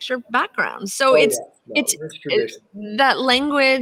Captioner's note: static drowns out